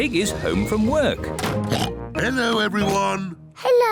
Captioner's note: oinks